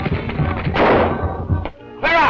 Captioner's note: gunshot